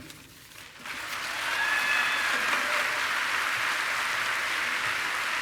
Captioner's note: people applauding